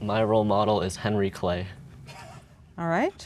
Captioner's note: giggling